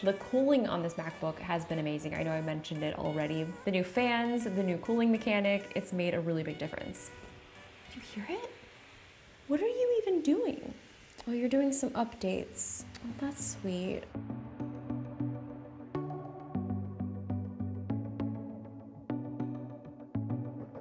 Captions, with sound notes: The cooling on this MacBook has been amazing. I know I mentioned it already. The new fans, the new cooling mechanic, it's made a really big difference. (fan blowing) Do you hear it? What are you even doing? Oh, you're doing some updates. That's sweet. (relaxed music)